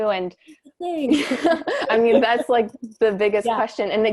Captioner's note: laughter